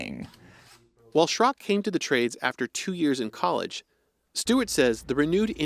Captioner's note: voice-over